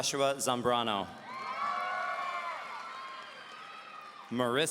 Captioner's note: audience cheering